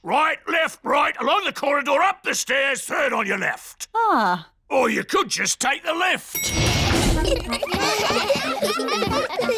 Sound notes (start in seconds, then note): 6.3 elevator bell dings; 6.9 all giggling